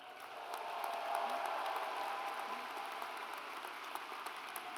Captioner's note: audience applauds